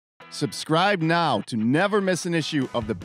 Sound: voiceover

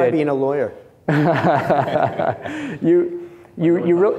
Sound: chuckles

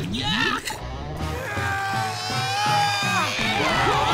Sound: grunting

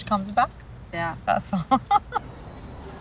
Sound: laughs

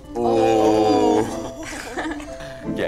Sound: group laughs

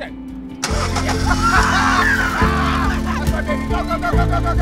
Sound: both scream in joy

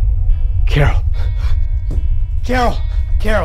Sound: gun falls against ground

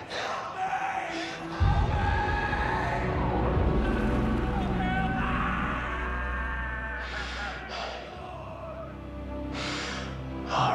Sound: screaming

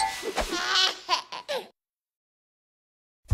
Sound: baby laughing

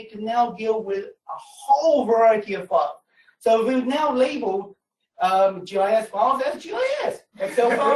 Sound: laughter

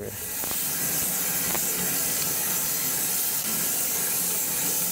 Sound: saw blade humming

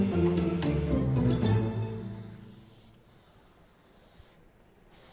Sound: spray can whirring

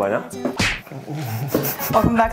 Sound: slapping sound

